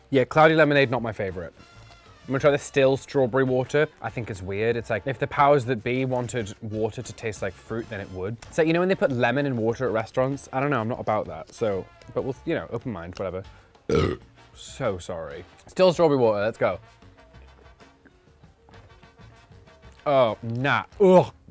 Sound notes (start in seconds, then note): 13.8 belches